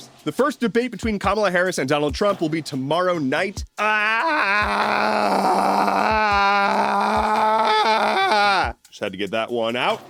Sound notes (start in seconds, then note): 3.7 A pure scream of pain giving way to catharsis